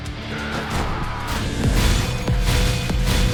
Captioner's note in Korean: 비명